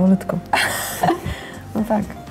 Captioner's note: laugh